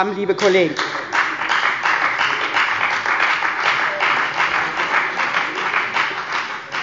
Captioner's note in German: Beifall bei der FDP und bei Abgeordneten der CDU